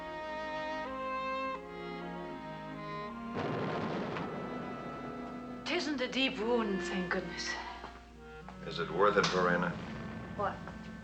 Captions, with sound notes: [ Bombing Continues ] IT ISN'T A DEEP WOUND, THANK GOODNESS. IS IT WORTH IT, VERENA? WHAT?